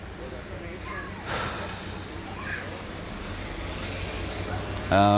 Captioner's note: sighing